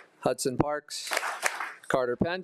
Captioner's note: attendees applauding